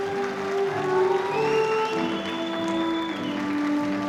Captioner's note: audience applauding